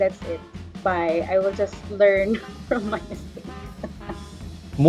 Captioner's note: laughs